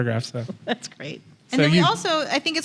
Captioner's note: chuckling